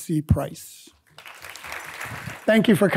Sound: audience clapping

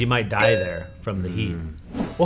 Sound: tone chimes

